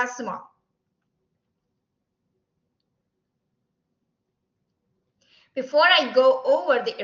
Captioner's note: silence